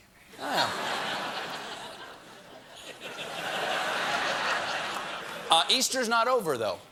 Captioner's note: laughter